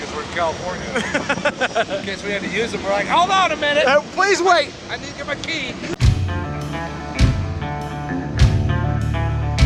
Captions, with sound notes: 'cause we're in California. (laughing) In case we had to use them, we're like, hold on a minute, please wait, I need to get my key. (upbeat music)